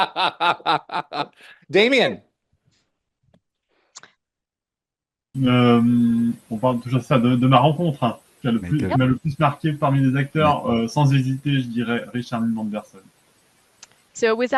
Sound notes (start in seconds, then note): 3.9 translating from French